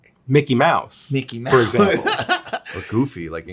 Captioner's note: laughs